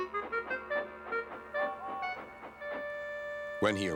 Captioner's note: whistles